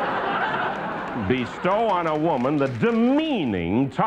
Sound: laughter

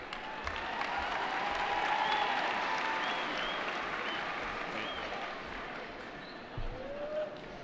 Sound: cheering

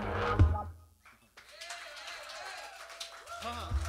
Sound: applause

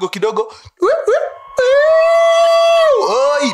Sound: sirens

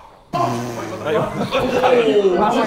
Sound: Sidemen laughing and chatting

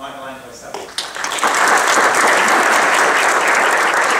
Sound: applause

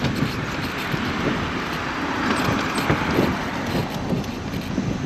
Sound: cars passing

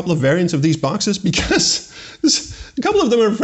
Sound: chuckles

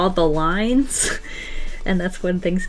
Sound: laughs

